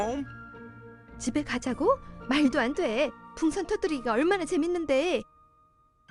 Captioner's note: speaking foreign language